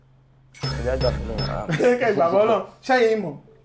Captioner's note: laughs